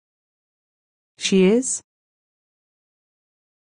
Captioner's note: simPODD voice